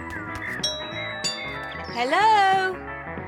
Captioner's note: doorbell rings